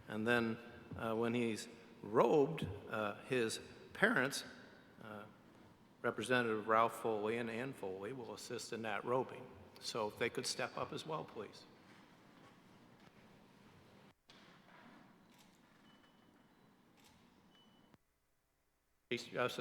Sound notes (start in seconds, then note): none